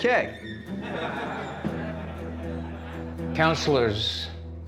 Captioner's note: laughter